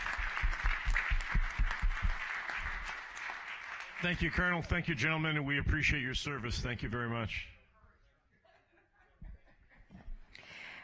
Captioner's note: applause